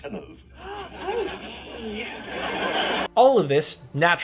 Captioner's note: laugh track